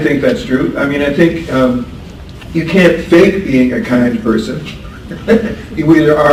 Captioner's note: laughs